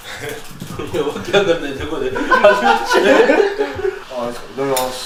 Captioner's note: laughs